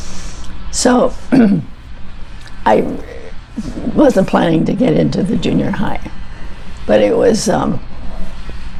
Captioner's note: clears throat